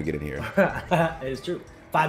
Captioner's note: laugh